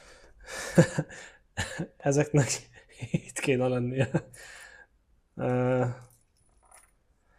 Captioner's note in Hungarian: nevetés